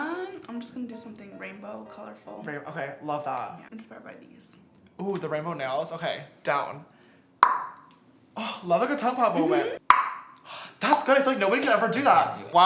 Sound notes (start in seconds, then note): 7.4 tongue pop; 9.8 tongue pop